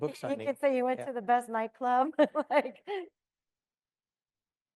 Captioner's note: laughs